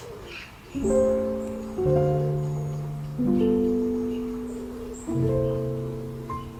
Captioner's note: birds chirping; gentle music